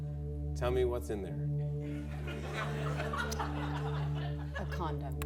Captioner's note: laughter